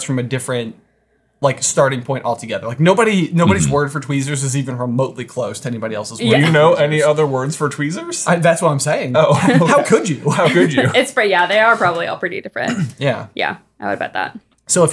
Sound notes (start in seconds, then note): 9.3 chuckling; 12.6 clearing throat